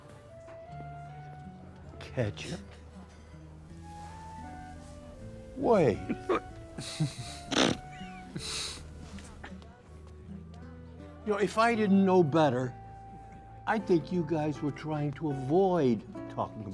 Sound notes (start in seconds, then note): 0.1 playful music; 6.7 all snickering